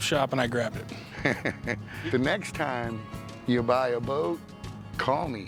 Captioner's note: laughs